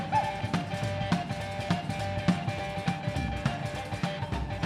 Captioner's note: shouting